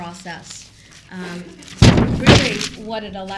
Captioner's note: loud Smash